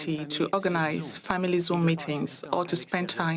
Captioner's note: speaking French